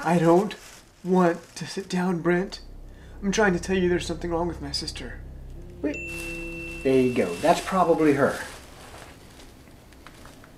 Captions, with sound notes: I don't want to sit down Brent. I'm trying to tell you there's something wrong with my sister. (PHONE DING) There you go, that's probably her.